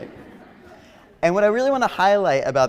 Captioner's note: audience laughing